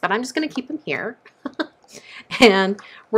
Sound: chuckling

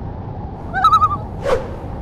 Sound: loon call

